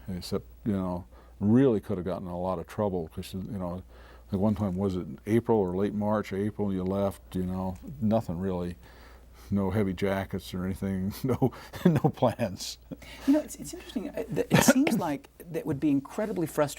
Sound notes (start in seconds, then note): 11.2 chuckling